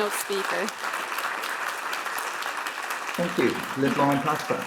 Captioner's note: Aplodeja